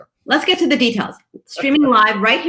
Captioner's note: laughs